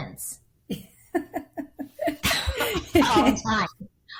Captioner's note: laughing